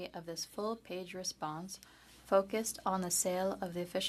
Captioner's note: speaking French